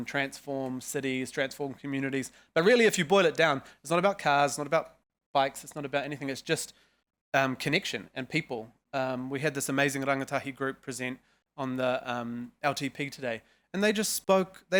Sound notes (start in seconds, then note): none